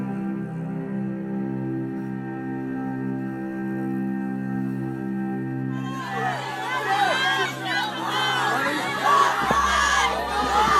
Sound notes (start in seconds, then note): 5.7 crowd shouting